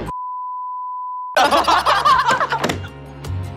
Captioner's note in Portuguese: Hahaha